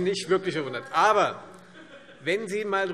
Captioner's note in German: Heiterkeit Freie Demokraten